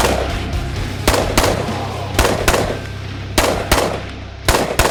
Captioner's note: gunfire continues